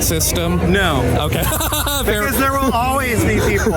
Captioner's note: laughing